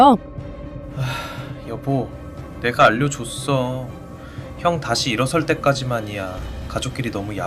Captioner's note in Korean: 한숨